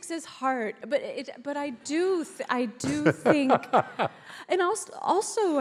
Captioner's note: laughs